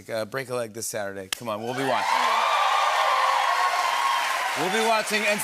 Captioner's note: cheering and applause